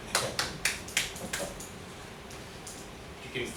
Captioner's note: claps